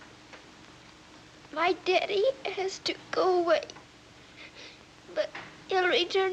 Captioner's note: voice breaking